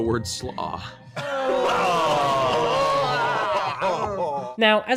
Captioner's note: disgusted groaning